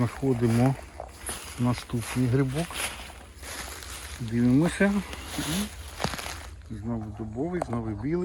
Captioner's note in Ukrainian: сопіння